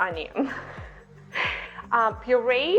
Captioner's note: laughing